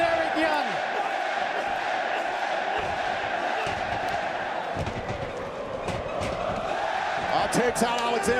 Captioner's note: crowd cheering